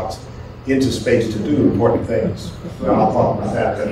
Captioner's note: laughter